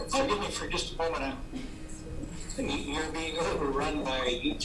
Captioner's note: audio repeating back